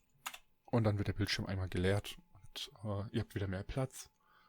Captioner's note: ehm